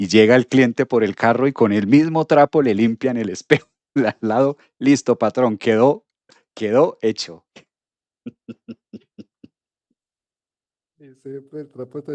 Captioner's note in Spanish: risas